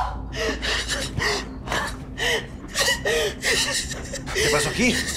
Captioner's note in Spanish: Sollozos